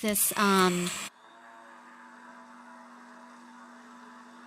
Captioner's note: blender whirring